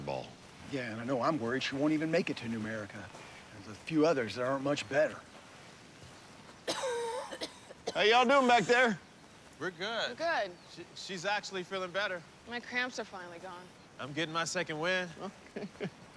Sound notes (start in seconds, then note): 6.6 coughing; 15.2 chuckling